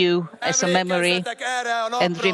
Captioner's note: speaking Hungarian